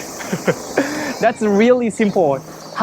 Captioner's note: chuckles